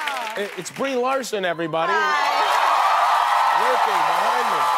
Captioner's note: cheers and applause